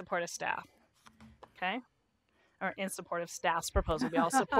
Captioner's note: laughter